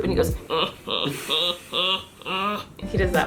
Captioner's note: snarky laugh